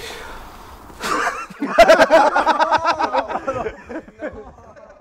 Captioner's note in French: Rires